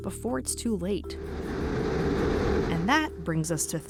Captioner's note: wind blows